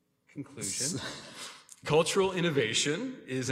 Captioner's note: Mayor chuckles